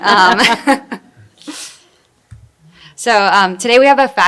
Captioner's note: laughter